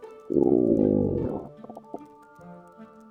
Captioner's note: stomach gurgle